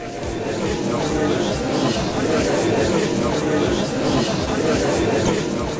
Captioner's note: gallery chattering